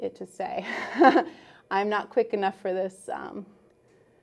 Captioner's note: laughs